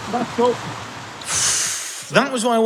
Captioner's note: hissing sigh